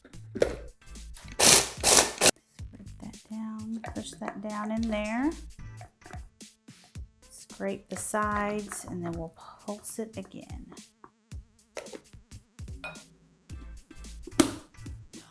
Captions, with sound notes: (processor grinding) And just push that down in there. Scrape the sides and then we'll pulse it again. (upbeat music)